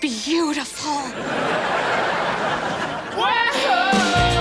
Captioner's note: audience laughter